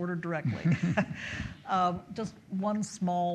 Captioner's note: both chuckle